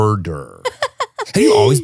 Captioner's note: laughing